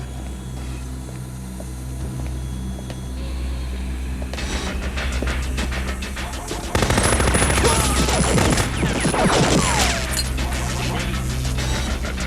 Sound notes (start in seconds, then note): 0.3 machines beeping; 0.3 ominous music; 6.4 machine gun firing; 7.6 tech screams